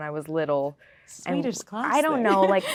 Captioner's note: laughing